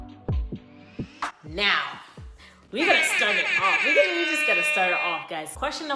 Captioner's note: airhorns in the back